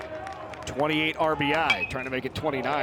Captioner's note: bat dings